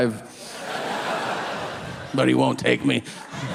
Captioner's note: audience laughing